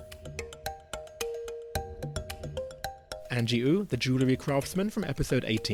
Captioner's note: voiceover